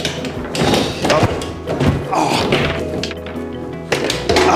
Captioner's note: ball shattering